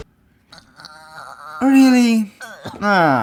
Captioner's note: sounds of pain